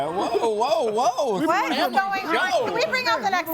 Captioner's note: group chattering